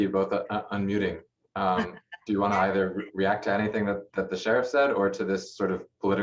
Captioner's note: laughter